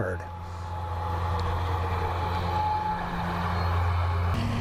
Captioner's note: tractor/mower sound